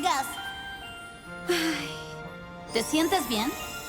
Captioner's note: relieved sigh